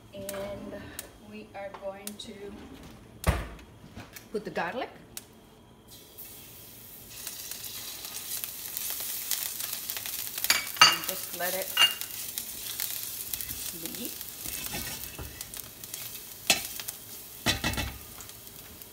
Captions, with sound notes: And we are going to put the garlic. (loud sizzling) and just let it sit.